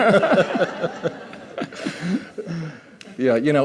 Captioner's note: laughter